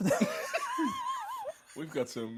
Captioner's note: both laughing